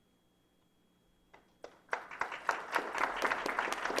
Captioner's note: applause